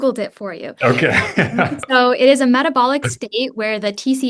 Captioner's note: chuckles